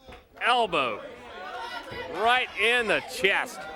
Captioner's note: crowd cheering